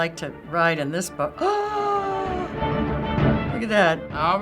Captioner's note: gasping